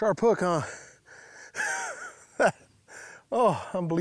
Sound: laughs

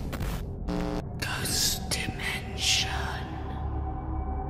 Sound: ghostly Voice

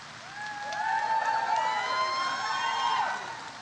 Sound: audience cheers

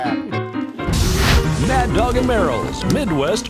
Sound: brand sizzling

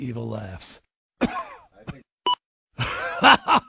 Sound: coughs

